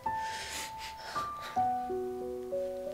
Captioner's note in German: Gerührte Laute